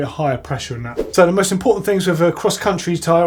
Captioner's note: swoosh